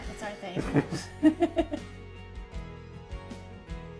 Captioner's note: laughter